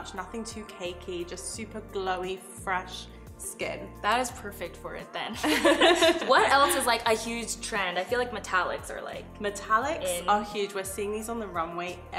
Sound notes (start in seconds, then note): 5.4 laughter